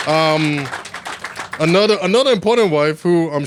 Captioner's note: applause